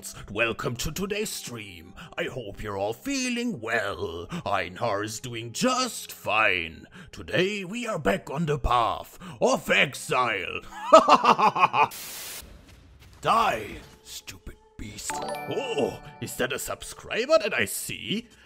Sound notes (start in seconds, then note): 15.0 subscription Sound